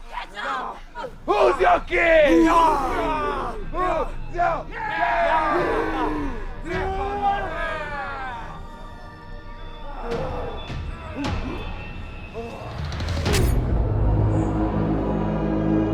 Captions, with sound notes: - Get up. - Who's your king? (all cheering) (dramatic music)